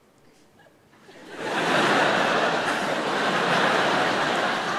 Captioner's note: audience laughing